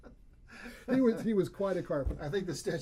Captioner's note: laughs